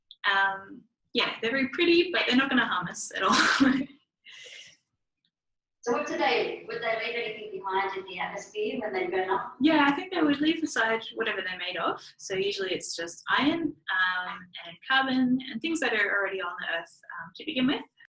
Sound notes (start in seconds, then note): 4.1 laughs; 5.6 voice off screen